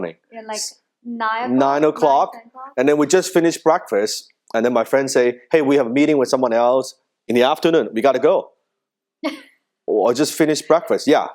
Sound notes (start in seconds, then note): 9.2 laughing